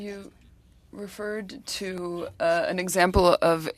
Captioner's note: speaking French